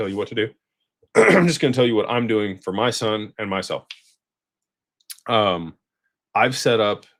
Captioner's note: clears throat